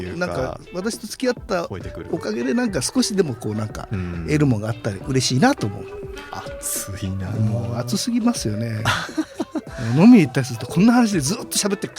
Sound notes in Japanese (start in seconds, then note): 11.2 笑い